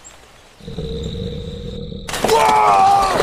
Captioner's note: growling